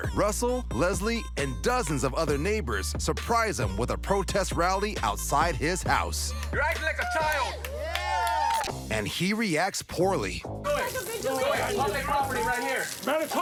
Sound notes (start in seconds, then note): 6.6 cheering